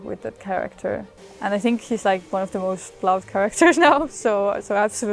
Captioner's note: laughs